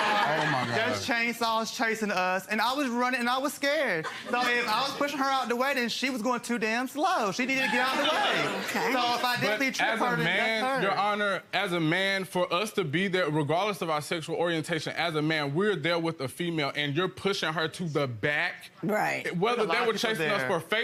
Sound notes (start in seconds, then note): 7.6 audience laughing